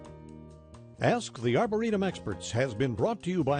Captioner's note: voiceover